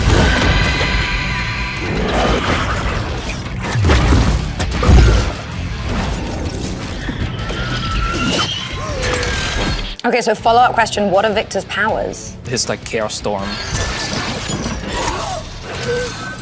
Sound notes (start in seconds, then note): 0.0 electricity buzzes; 3.6 building explodes